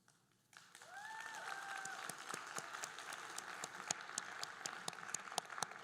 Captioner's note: audience cheering and applauding